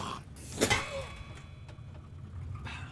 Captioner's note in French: impact métallique